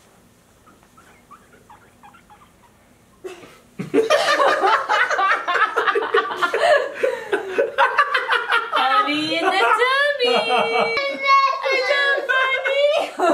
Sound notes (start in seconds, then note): 3.8 laughter